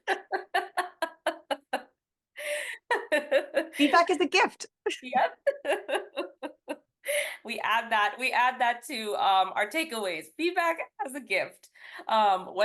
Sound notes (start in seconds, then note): 0.0 laughs; 5.2 laughs